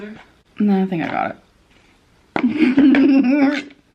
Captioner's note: laughing